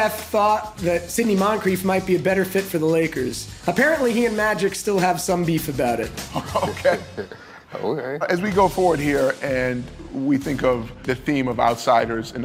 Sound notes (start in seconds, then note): 6.2 chuckles